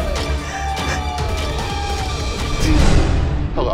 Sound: sobbing

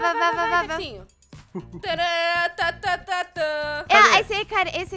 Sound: laughing on the background

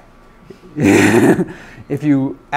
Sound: laughs

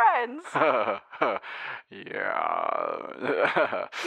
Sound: laughs

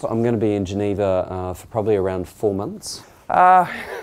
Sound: laughs

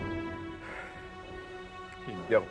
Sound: sighs

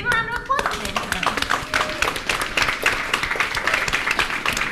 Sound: audience applauds

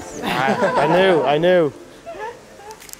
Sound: chuckling

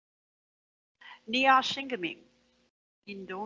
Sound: foreign language

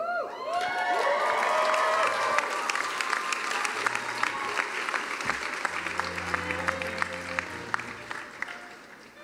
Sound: cheering and applause

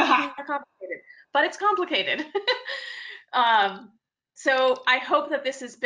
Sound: laughs

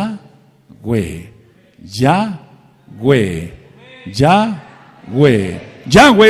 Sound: congregation praising on the background

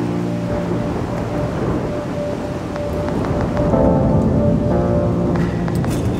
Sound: thunder

